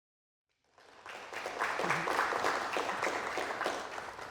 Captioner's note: audience applauding